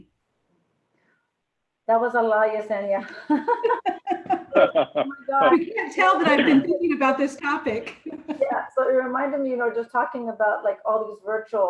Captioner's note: laughs